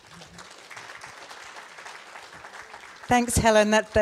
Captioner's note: audience applauds